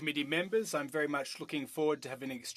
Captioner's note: speaking French